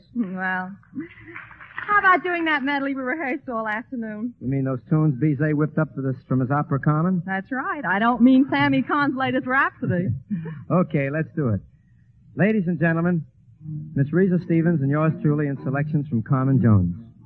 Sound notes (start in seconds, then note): 9.9 chuckle